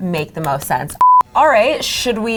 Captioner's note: beep